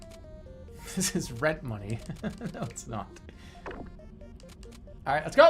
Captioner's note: giggling